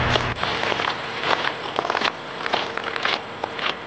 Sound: footsteps crunching

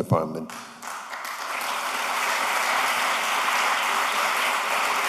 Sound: applause

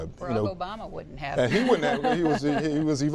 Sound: laughter

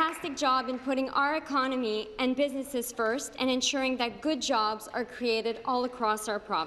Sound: applause

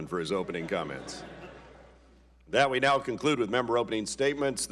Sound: laughter

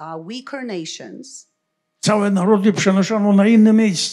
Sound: foreign language

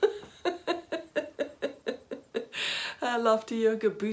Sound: laughing

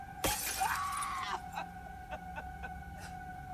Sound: screaming and crying

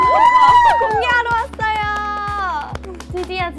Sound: seal clap

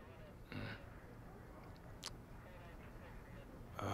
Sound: radio chatter in background

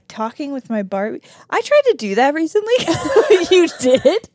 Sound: laugh

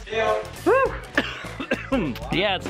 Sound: coughs

